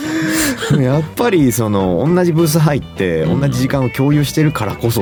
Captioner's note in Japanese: 笑い